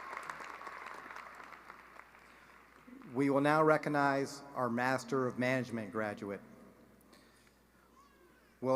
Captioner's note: cheering and applause